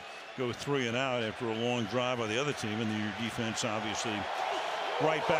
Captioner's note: cheers